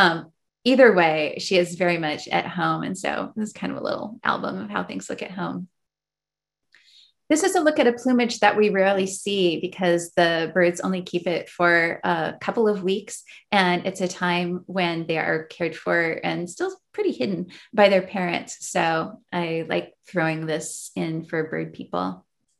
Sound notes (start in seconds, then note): none